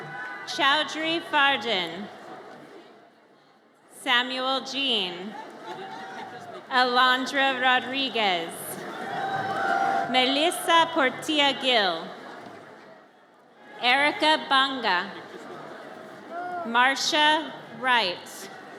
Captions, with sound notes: Chowdhury Fardin. Samuel Jean. Alondra Rodriguez. (audience cheers) Melissa Portela Gil. Erica Banga. Marcia Wright.